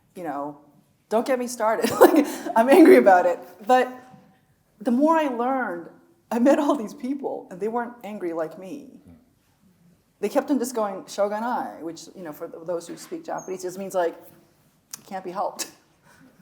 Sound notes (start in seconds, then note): 1.9 chuckles; 11.2 speaks Japanese